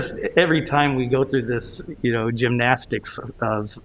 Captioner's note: laughter